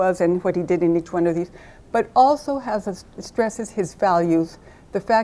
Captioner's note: none